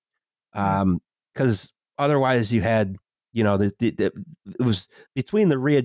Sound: stammers

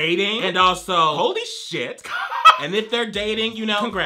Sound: laughs

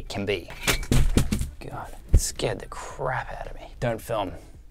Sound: panel falling

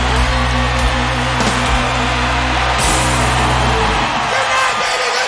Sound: audience cheering and clapping

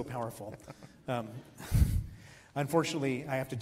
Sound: giggles

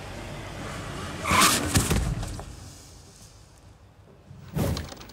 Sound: brakes squeal

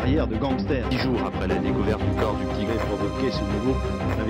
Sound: French speaking

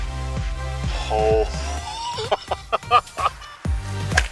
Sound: disbelieving laugh

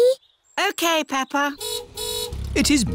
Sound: car horn honks

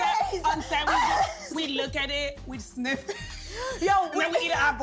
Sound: laughs

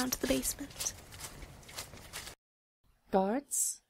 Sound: footsteps

